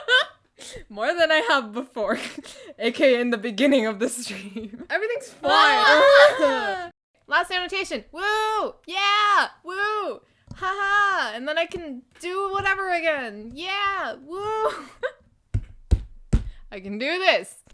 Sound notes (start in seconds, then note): 15.4 slams fist on desk